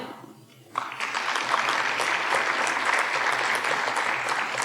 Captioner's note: audience applauding